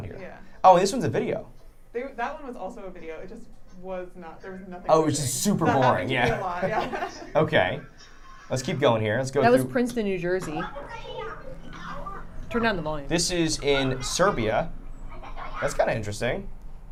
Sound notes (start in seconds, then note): 7.6 laughs; 10.3 kids playing